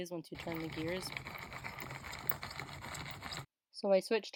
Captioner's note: eeky squeaky gear noises